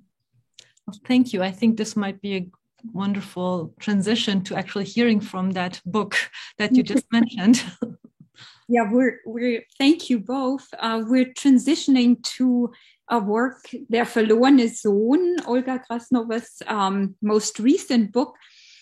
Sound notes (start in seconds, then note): 14.4 speaking german